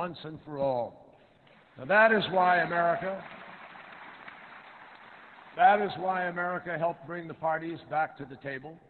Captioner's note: applause